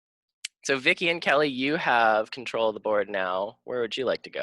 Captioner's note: none